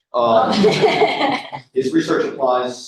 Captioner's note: laughter